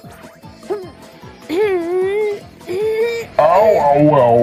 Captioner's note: Komasan struggles